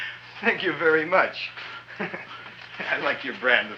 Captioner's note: chuckles